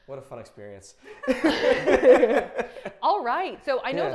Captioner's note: laughs loudly